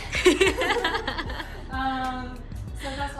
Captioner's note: laughing